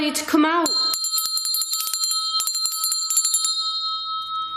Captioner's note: bell ringing